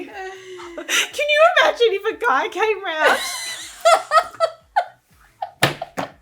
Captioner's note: laughing